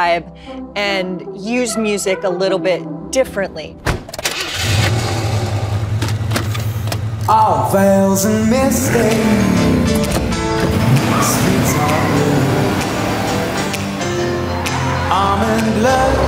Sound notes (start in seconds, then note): 10.9 tires screech